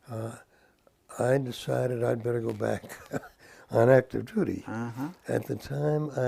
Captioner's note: laugh